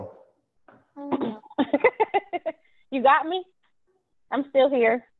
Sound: laughs

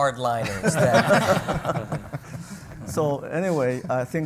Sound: panel laughs

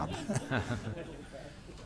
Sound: laughter

